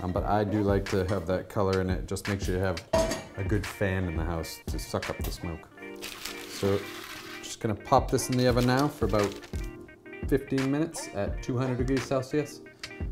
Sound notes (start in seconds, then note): 5.9 paper crinkles